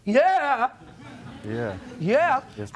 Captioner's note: audience laughing